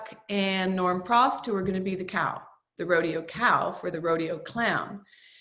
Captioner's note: none